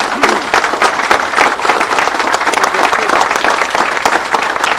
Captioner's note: people applauding